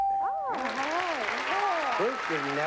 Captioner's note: applause